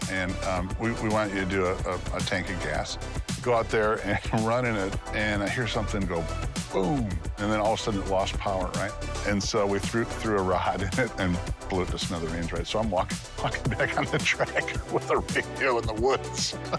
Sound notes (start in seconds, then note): 13.4 laughs